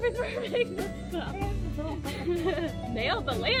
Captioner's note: laughs